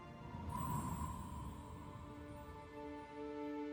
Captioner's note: dreamy electronic music fades out; sound of cold wind; sad music